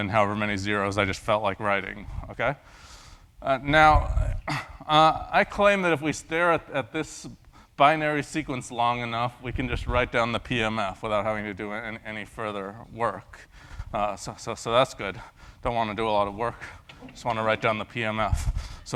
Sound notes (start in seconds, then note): 4.5 cough